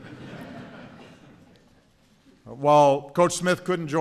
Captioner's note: laughter